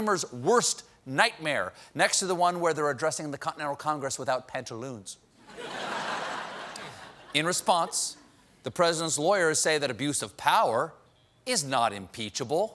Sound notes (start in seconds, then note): 8.0 laughter